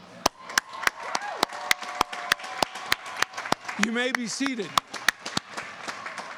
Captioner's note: applause